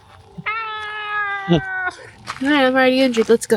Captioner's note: screaming